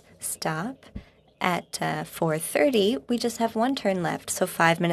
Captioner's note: speaking French